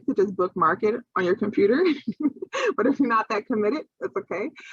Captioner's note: laughing